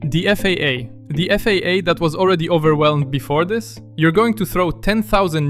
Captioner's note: stammers